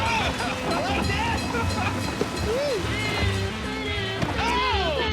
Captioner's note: bell ringing